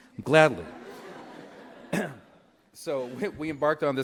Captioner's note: laughter